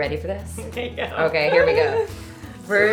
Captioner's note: laughing